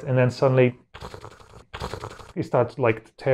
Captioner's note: tearing sound of doom